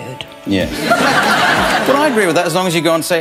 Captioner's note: audience laughing